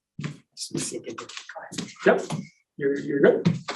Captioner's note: voice distorts